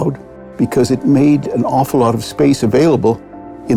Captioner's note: none